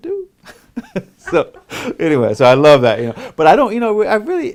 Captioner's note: laughs